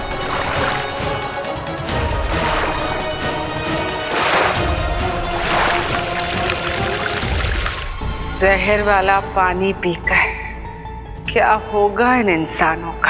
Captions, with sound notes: [water trickling] Drinking the water filled with poison, how will these humans survive?